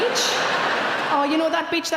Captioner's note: audience laughing